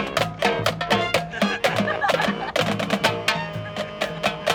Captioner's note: laughter